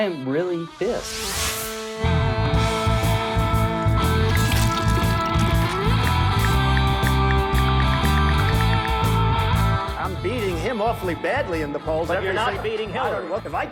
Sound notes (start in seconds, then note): 2.8 rock music; 4.2 paint splashing; 6.8 ticking